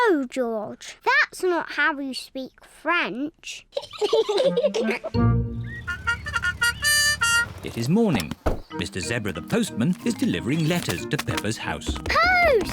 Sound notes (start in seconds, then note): 3.7 both giggle; 5.8 car horn